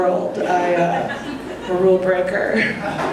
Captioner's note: audience laughing